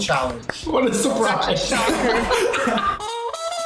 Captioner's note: laughs; upbeat brass interlude